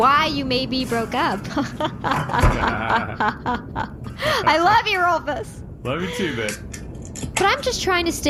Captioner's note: laughs nervously